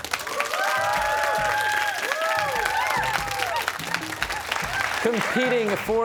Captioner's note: cheers and applause